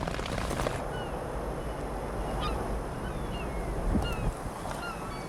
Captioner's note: birds chirping